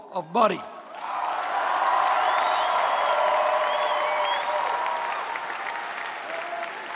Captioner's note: audience clapping